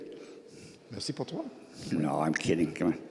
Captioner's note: speaking in French